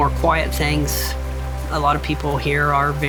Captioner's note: water rushing